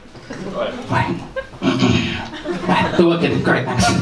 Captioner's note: clears throat